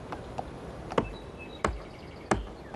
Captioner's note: knock knock knock